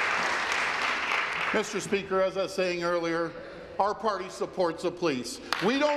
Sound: applause

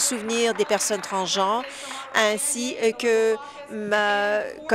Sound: applause

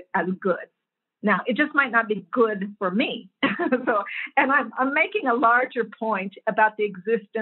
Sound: laugh

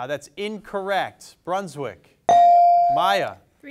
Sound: bell dings

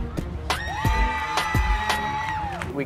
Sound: applause

